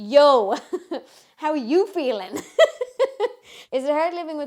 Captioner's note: laughs